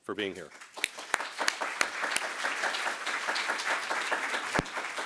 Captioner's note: applause